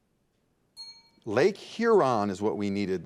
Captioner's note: bell dings